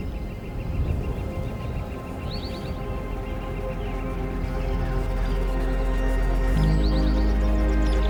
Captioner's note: birds continue chirping; gentle music intensifies